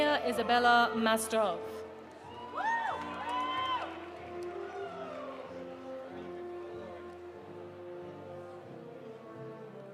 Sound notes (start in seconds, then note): 2.0 audience applauding; 2.3 audience cheering